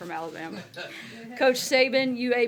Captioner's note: laughter